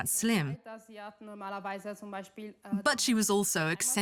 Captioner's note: speaks in foreign language